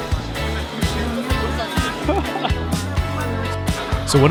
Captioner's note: laughing